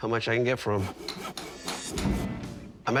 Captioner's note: construction tools clanking